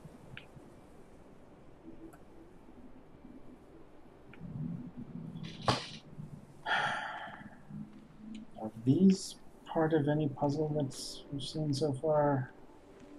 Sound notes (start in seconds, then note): 6.6 sighs